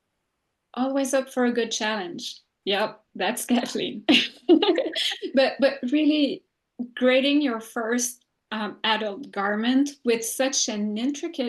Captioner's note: laughs